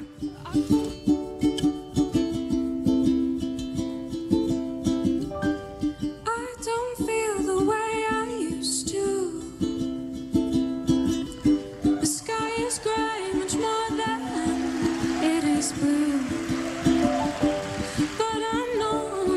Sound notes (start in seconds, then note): 16.3 audience cheers